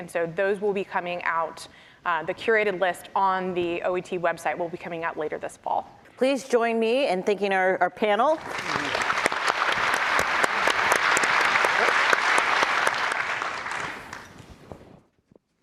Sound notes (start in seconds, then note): 8.4 applause